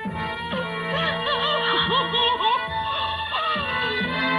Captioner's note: sobbing